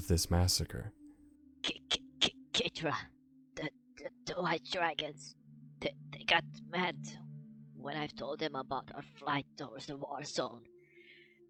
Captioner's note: cough..cough